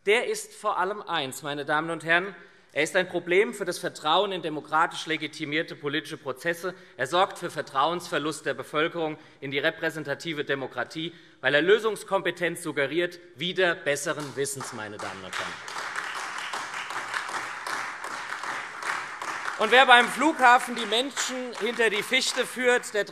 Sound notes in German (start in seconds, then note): 16.0 Beifall SPD, Freie Demokraten und vereinzelt AfD